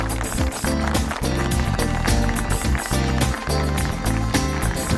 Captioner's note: audience applauding